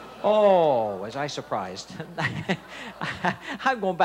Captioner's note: chuckling